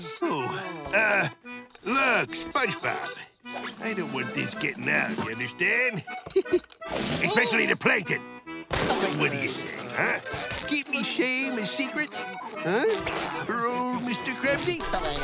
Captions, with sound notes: Oh, uh, look, SpongeBob, I don't want this getting out, you understand? [chuckles] Especially to Plankton. So what do you say, huh? Keep me shame a secret, huh? For old Mr. Krabsy?